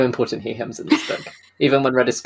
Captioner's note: laughs